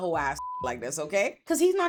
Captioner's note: beep